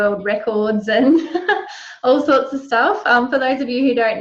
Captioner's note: laughs